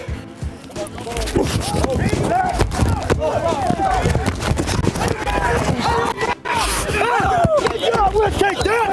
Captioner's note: hitting sounds; cheering